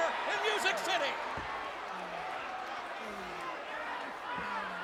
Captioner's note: crowd yelling